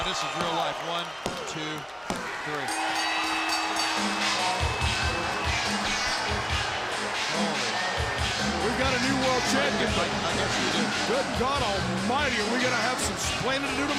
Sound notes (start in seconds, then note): 2.7 bell rings